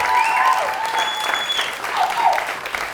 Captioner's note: applause and cheering; whistles